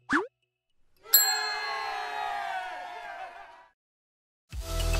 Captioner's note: crowd applauding